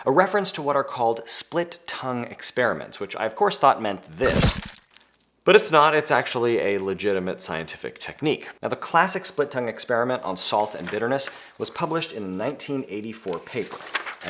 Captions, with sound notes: A reference to what are called split tongue experiments, which I of course thought meant this. (liquid sloshing) But it's not. It's actually a legitimate scientific technique. Now, the classic split tongue experiment on salt and bitterness was published in a 1984 paper.